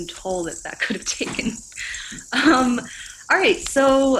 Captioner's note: giggles